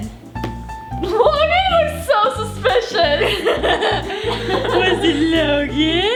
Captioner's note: laughs